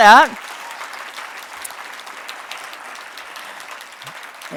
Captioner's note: audience clapping